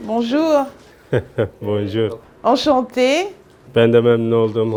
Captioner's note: laughs